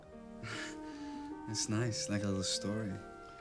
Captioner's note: chuckles